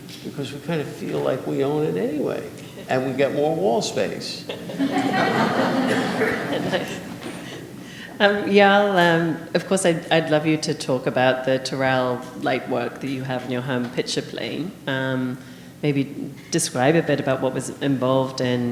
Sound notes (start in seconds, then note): 4.3 audience laughing